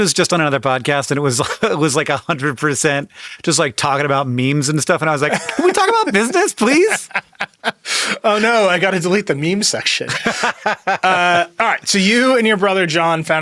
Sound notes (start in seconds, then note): 5.2 laughs; 10.0 Hank laughs